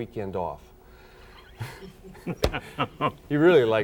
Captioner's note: laughs